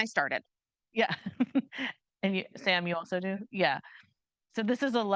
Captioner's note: chuckles